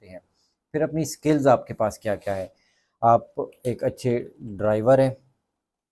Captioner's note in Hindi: नाक से की जाने वाली आवाज़